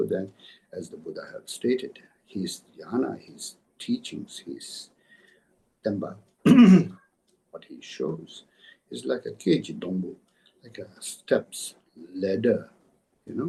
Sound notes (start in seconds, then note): 7.1 tibetan